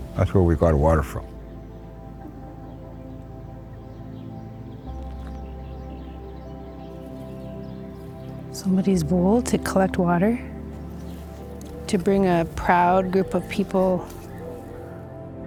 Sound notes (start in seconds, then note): 1.7 pensive music continues; 6.3 birds chirping